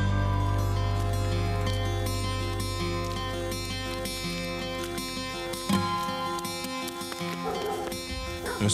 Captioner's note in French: aboiements